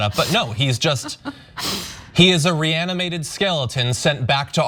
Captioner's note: laugh